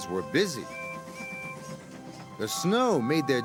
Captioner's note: toot toot